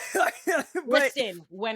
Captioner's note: laughs